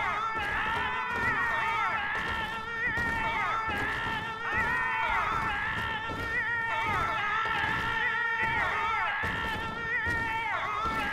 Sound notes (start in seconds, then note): 0.1 screaming continues; 7.5 caterwauling